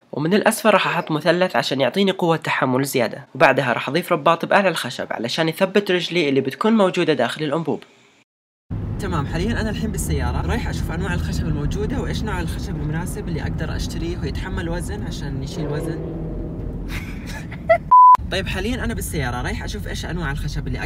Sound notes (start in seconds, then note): 15.8 car engine sound; 16.8 laughs